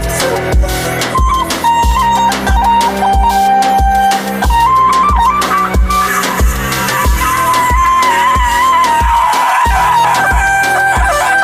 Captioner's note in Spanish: Grito con auto tune